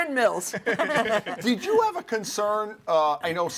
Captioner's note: all laughing